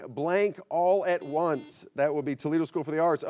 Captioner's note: buzzer beeps